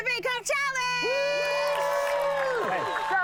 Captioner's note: crowd applauds, shouts